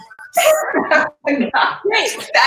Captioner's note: laughing